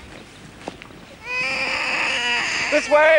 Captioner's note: baby wailing